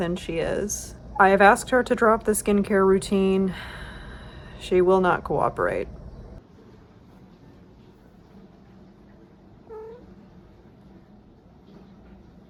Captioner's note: various cat chirps